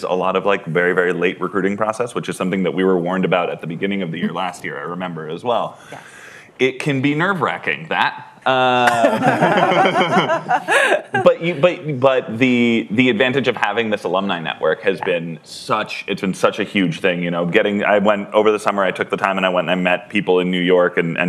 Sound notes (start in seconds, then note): 8.8 laughter